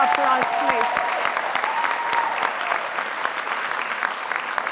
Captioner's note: audience applauding